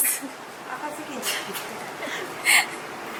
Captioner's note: laughs